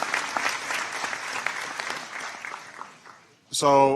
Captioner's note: applause